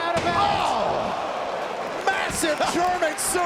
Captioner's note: crowd exclaims